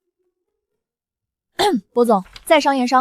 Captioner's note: ahem